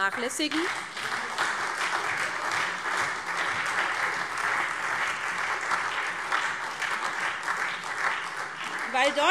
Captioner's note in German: Beifall SPD und Freie Demokraten